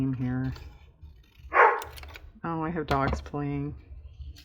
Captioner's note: dog barks